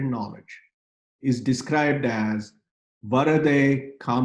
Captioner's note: speaking in foreign language